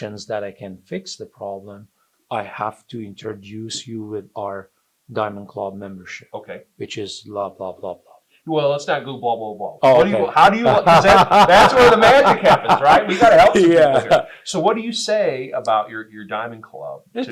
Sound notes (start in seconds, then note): 10.0 both laugh